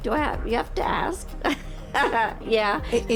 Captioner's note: laughs